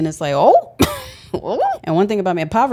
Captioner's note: laughs